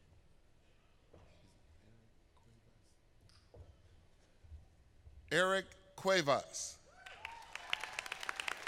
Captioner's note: applause